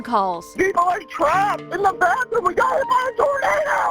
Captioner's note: voiceover